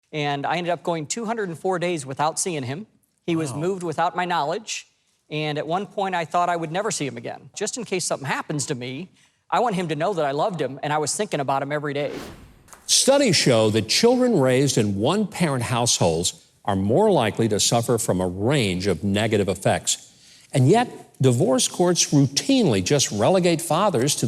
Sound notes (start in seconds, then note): 12.0 wind whooshing